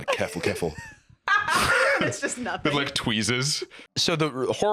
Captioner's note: laughs